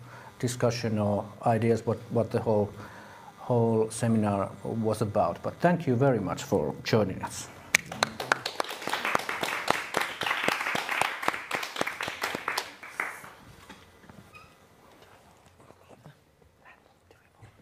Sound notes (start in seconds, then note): 7.8 applause